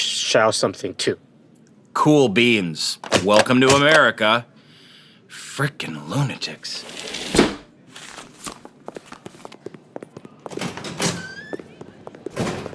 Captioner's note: sound of a passport stamp